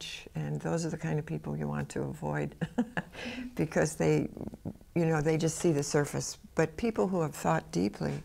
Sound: laughs

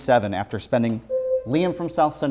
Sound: buzzer sounds

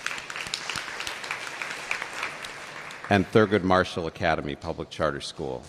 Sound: applause

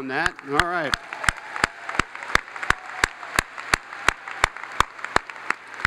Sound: audience applauds

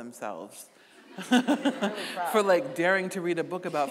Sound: audience laughing; laughing

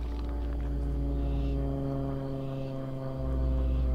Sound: birds chirping

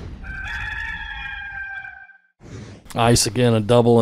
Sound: rooster crow

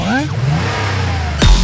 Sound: car revs

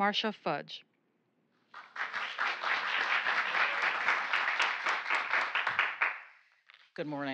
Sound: applause

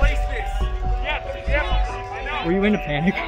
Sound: panicked chatter

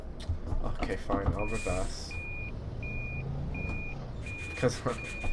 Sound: beeping noise

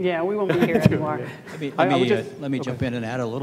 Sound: laughs

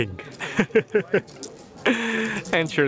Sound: laughs

